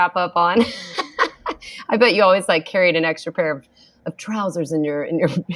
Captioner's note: laughs